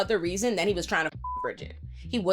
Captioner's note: beep